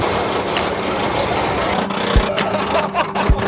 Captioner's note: roller coaster clicks; laughing